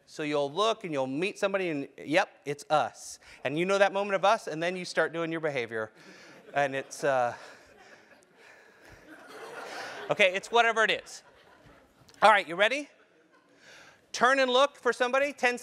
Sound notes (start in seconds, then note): 9.5 laugh